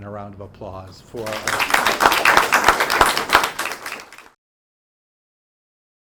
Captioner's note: audience applauding